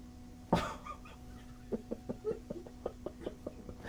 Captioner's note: laughing